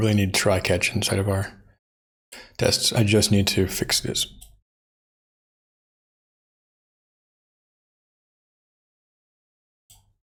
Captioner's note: blank Audio